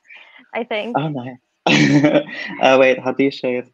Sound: laughs

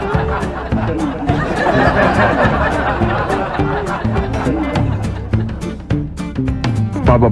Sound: chuckles

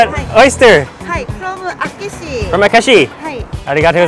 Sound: speaks Japanese

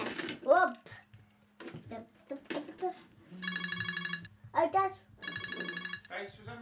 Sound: phone ringing

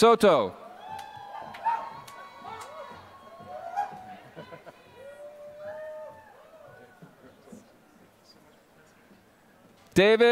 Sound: applause

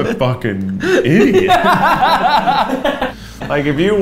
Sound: laughs

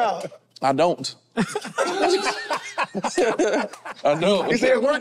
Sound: group laughs

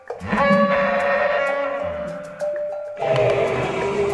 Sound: parasaurolophus Sounds

